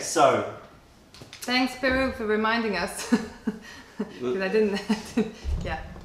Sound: laughter

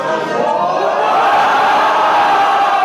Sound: crowd

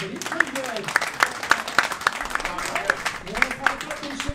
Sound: applauding

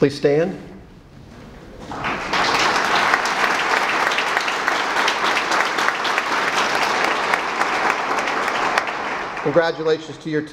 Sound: applause

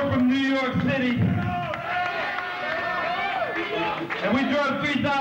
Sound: cheering

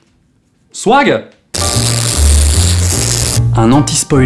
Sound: shocking noise

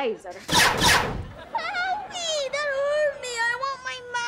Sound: whining

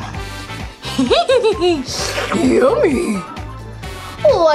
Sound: laughs

